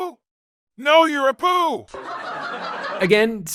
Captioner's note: canned laughter